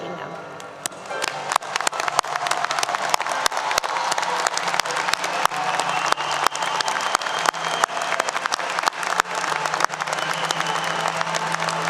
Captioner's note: applause 👏 👏